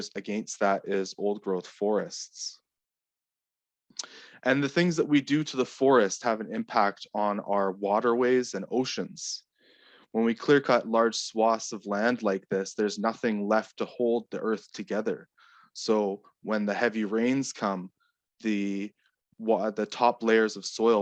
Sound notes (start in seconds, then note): none